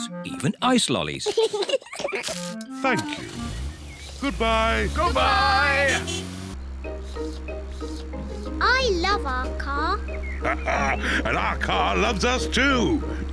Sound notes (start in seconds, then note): 1.2 both laugh; 6.7 slurping; 10.4 laughs